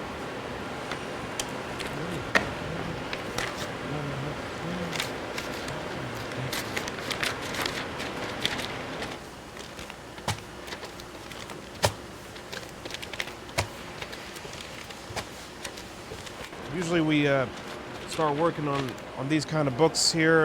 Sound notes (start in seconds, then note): 8.4 machine running